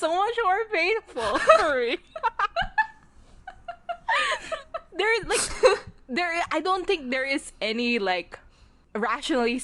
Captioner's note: both laugh